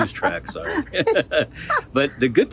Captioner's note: laughs